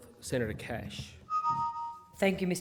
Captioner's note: chiming